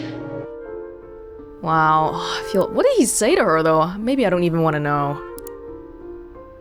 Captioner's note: exhales